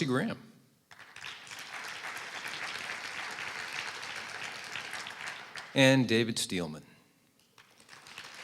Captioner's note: applause; applause